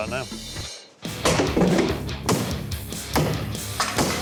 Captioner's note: wood chopping